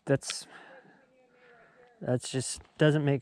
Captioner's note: chattering